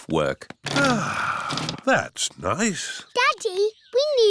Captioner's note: sighs